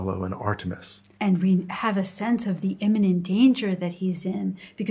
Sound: voiceover

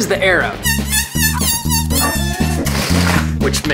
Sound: squeaking

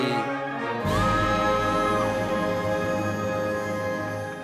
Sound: audience applauding

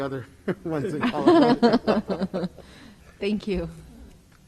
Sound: both laugh

